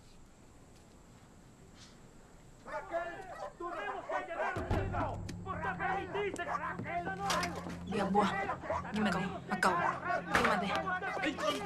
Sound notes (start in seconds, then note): 2.6 dogs barking, men shouting in spanish